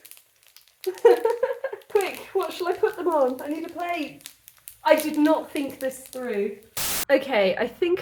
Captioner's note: laughing